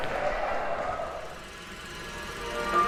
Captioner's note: projector clicking